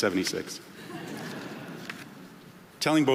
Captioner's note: audience laughing